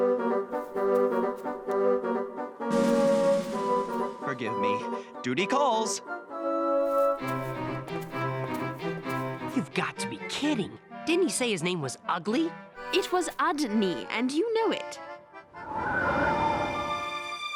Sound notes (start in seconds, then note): none